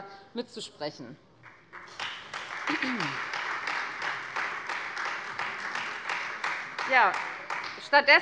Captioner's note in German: Beifall Freie Demokraten und vereinzelt SPD